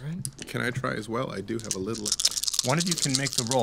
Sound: dice rolling

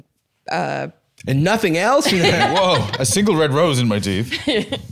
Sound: laughs

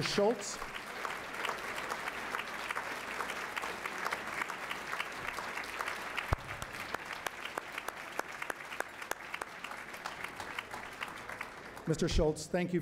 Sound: applause

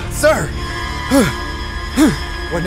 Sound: sighs

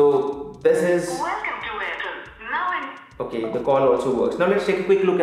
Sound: voice prompt being played on the phone

